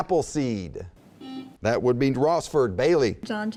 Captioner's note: buzzing